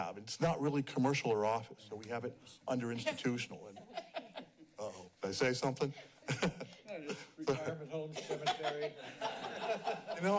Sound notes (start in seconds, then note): 3.6 laughs; 8.1 laughs